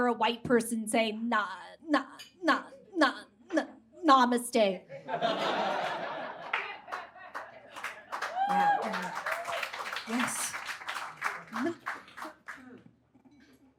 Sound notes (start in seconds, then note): 5.0 audience laughs; 7.7 laughter turns into clapping and whooping